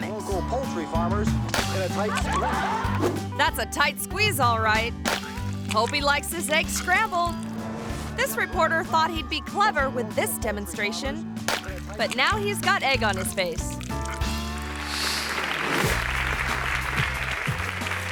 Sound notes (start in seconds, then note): 2.1 egg pops; 5.0 egg pops; 11.4 egg pops; 13.8 gentle guitar music; 14.5 hands clapping; 14.9 graphics whooshing